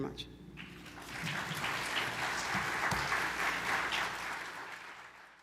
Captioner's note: attendees applaud